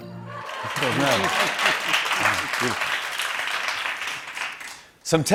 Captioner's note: applause